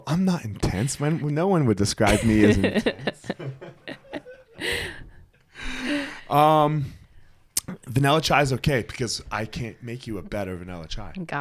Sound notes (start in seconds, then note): 2.0 both laughing